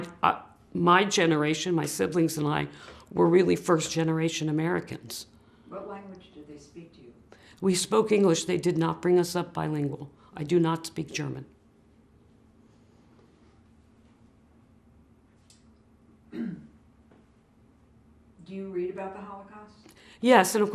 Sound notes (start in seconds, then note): 12.7 pauses 6 seconds